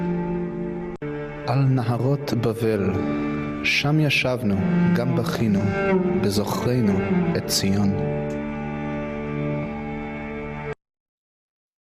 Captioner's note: reading in Hebrew